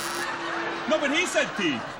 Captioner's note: buzzer